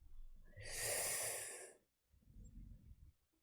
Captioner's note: sharp intake of breath